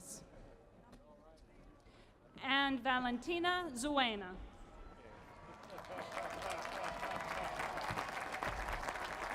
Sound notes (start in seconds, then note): 5.3 applause